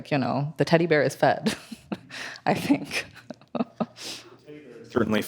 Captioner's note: laughs